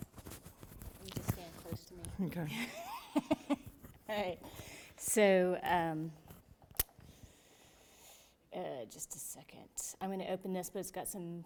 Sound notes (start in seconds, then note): 2.6 laughs